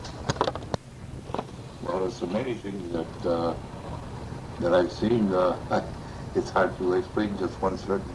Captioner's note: laughs